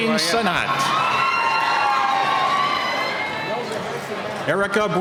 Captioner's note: cheering